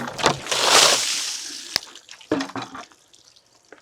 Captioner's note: water splashing